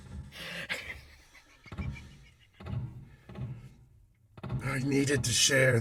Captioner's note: uncontrollable giggling